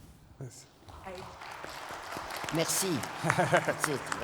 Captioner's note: applause